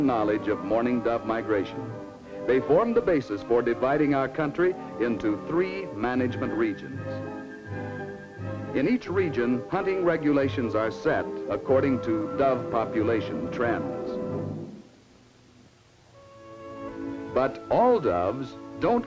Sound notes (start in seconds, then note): none